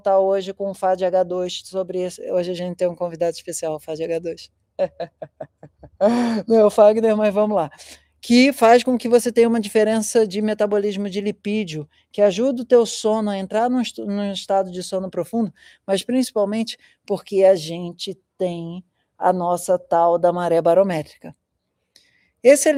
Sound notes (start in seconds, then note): 4.8 laughter